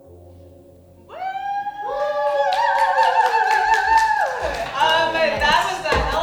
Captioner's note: cheering